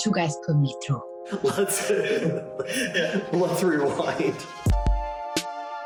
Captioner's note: laughs; intro music